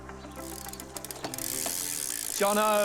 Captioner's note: wheels whirr